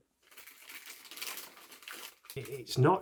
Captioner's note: plastic rustling